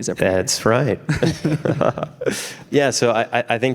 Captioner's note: laughing